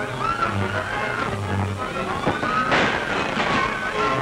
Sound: screaming; gun shots

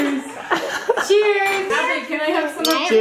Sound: laughs

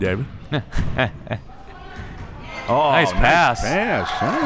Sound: laughs

